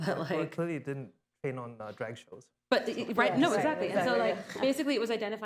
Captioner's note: laughter